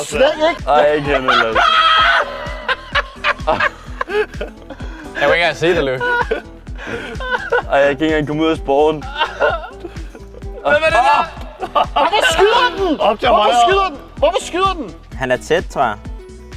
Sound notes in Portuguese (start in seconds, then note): 0.3 Risada maniaca